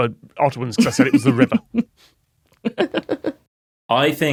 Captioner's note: snicker